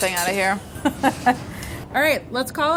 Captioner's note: laughter